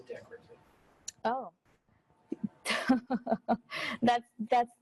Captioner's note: chuckles